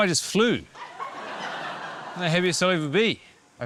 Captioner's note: laughter